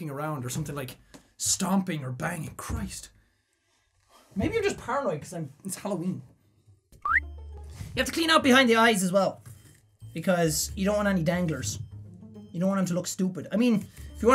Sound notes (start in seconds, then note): 7.0 bwoop ʕ•ᴥ•ʔ